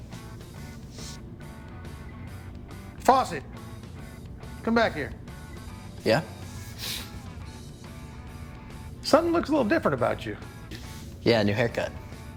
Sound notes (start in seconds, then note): 0.3 upbeat music continues; 6.3 sniffs